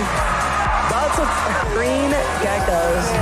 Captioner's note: crowd roars